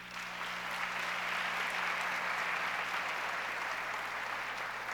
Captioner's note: audience applauds